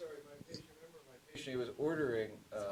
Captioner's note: distant speaking